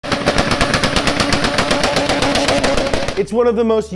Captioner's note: engine revving and exhaust cracking